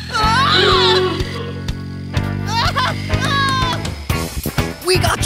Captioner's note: screaming